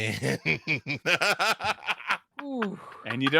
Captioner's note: laughs